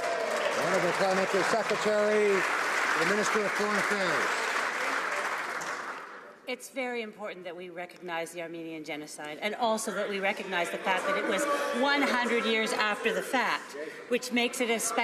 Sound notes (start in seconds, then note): 3.5 some Applause